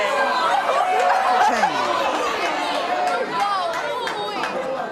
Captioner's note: audience shouting